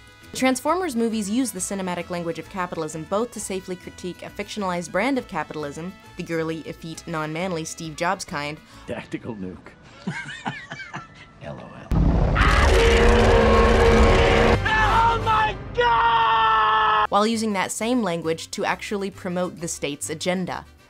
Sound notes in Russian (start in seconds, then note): 12.2 динобот ревет в лицо джойсу; 14.5 во всю глотку